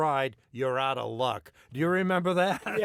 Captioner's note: laughter